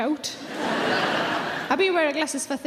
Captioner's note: audience laughing loudly